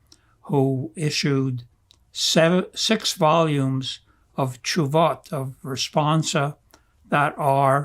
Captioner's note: hebrew